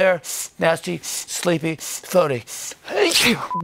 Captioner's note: sniffs